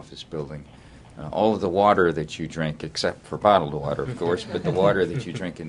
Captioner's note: laughter